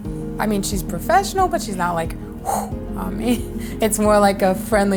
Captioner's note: imitates wind